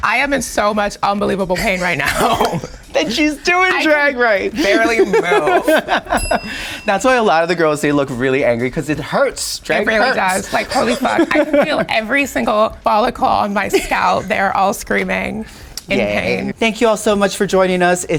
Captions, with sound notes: - I am in so much unbelievable pain right now. - Then she's doing drag right. - I can barely move. [laughing] [bell dings] - That's why a lot of the girls, they look really angry. 'Cause it hurts. Drag hurts. - It really does. Like, holy fuck. I can feel every single follicle on my scalp. They are all screaming in pain. - Yay. Thank you all so much for joining us.